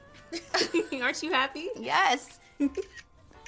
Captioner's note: giggles